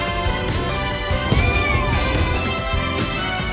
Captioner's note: Caprice meows